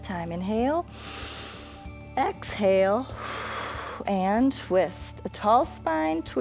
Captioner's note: exhales; inhales